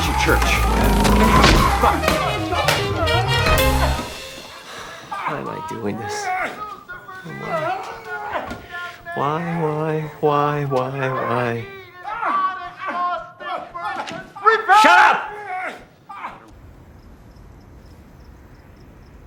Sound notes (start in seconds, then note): 5.1 breathing heavily; 14.1 groaning